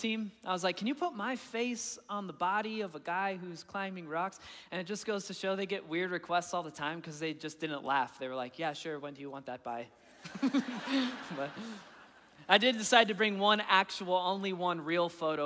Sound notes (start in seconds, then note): 10.3 laughing